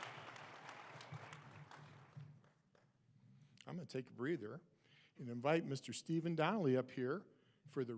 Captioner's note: applause